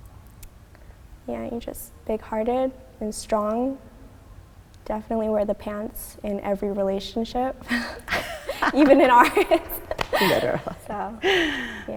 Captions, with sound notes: and you are just big hearted and strong. Definitely wear the pants in every relationship. - (laughing) - Even in ours. (laughing) So. - Okay.